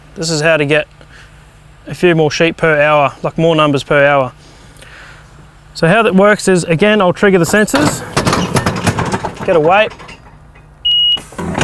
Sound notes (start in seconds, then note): 7.4 loud banging; 10.8 beep